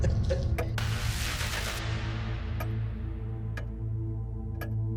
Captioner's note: clock ticking